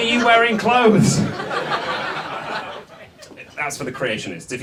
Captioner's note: audience laughs